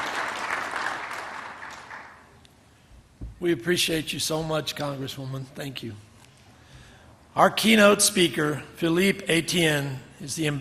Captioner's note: applause